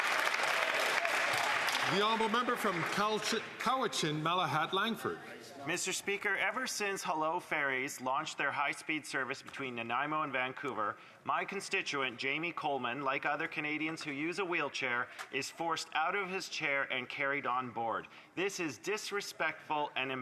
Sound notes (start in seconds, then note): 3.8 some Applause